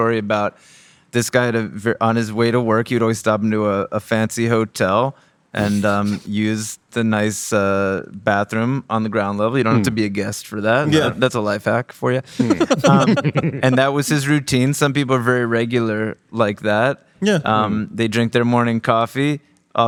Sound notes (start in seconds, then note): 5.6 laughing; 12.2 laughing